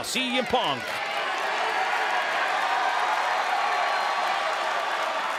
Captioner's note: crowd cheering